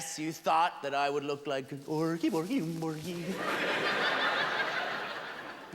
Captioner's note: Swedish gibberish as Chef; laughter